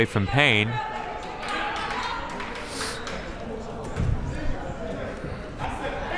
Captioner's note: crowd members clapping